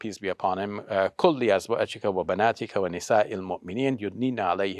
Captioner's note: speaking in Arabic